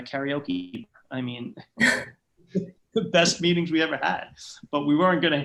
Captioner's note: laughter